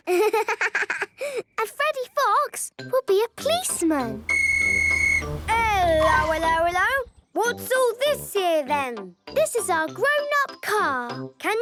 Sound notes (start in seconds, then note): 4.2 whistle blowing